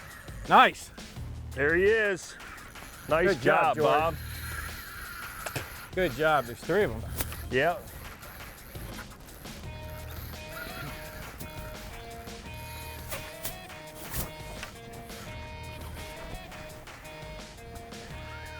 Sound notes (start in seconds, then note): 0.0 drag screams; 5.6 spits; 9.1 upbeat music